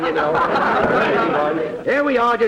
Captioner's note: audience laughter